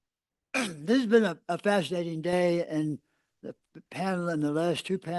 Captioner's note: cough